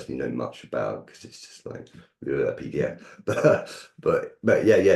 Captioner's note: chuckles